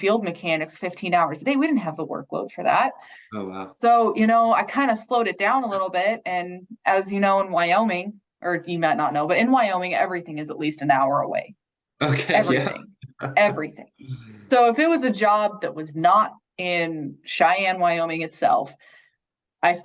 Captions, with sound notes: field mechanics 15 hours a day. We didn't have the workload for that. - Oh, wow. - So I kind of slowed it down a little bit and as you know in Wyoming or you might not know, but in Wyoming everything is at least an hour away. - Okay, yeah. (chuckles) - Everything. Everything. So if it was a job that was not in Cheyenne, Wyoming itself,